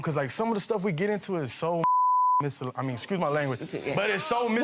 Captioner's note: beep